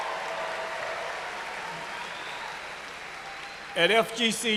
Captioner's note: cheers and applause